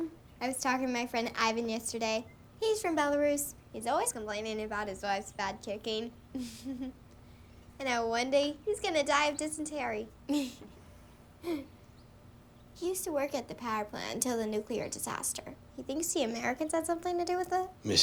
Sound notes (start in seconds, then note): 6.4 laughs; 10.4 both chuckling